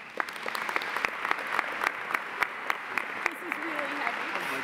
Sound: audience applauding

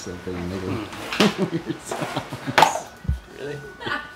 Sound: laughs

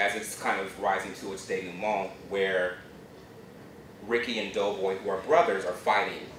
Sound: non-english speech

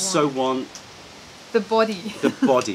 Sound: laughter

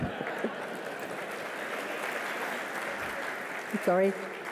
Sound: applause

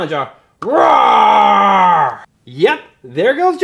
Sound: roars

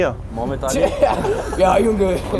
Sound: guys laugh

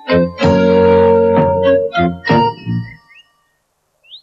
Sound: none

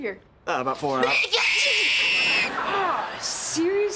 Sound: screaming

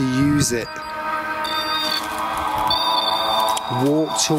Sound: equipment buzzes

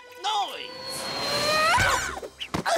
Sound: screaming

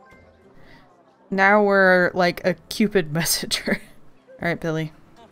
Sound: laughs

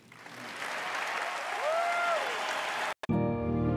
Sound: applause, cheering

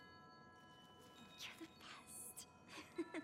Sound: laughing

